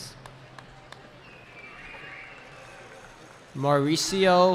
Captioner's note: cheering